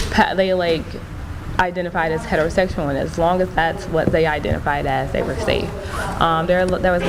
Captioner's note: none